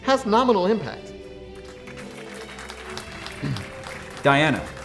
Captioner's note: applause